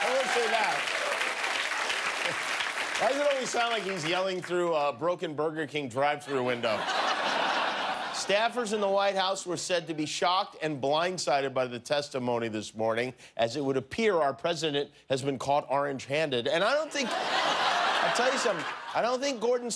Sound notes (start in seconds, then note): 2.3 cheers and applause